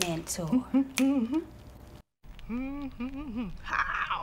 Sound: humming softly

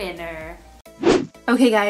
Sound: whooshing

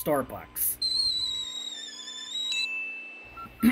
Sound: kettle sound; ding

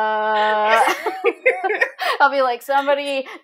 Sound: both laughing

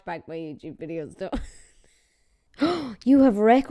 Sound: gasping

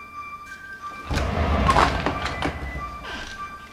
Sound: alarm beep

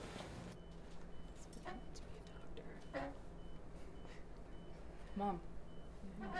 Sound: electronics beeping; quiet chatter

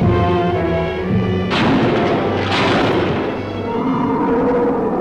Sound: gun firing

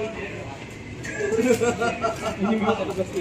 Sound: someone Laughing at the back

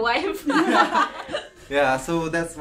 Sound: all laughs

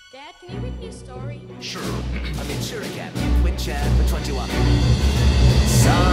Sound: cough

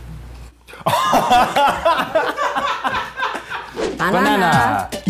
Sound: laughing

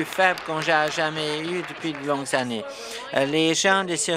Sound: applause

